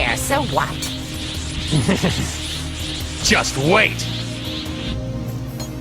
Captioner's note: Goku snickers